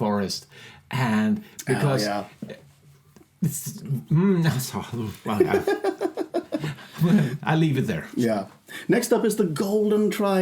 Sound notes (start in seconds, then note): 2.9 speaking in foreign language; 5.2 laughing